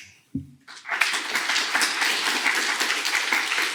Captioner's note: applause